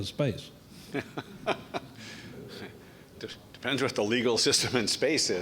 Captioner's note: Venter laughs